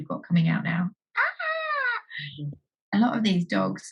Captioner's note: scream